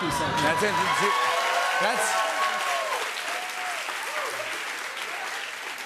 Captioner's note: cheers and applause